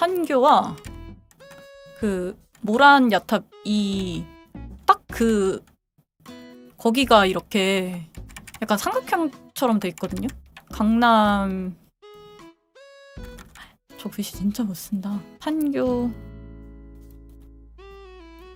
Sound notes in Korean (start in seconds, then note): none